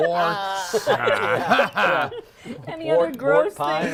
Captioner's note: laughter